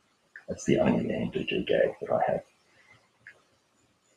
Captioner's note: speaker speaks in a low voice